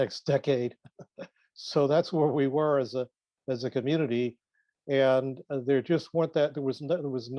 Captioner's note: laughs